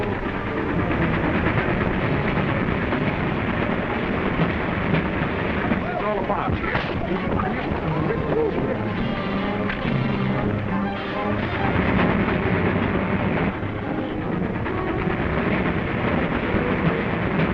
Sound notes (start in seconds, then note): 5.4 passengers exclaiming